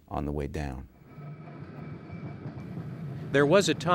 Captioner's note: street car jingles